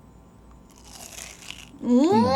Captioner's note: crunchy